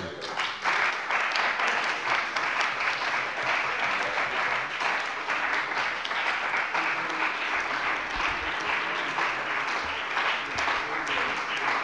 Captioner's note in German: Beifall bei dem BÜNDNIS 90/DIE GRÜNEN und der CDU